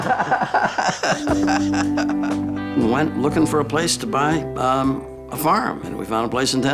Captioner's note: laugh